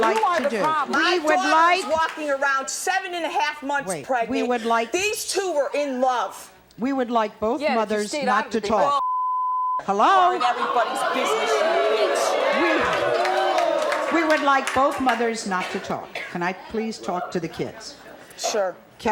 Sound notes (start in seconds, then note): 9.0 beep